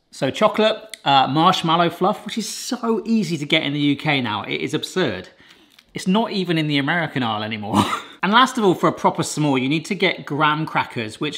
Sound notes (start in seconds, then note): 7.9 laughs